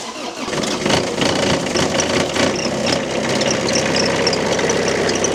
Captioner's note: engine turning and then rumbling